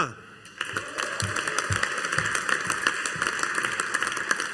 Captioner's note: audience applauding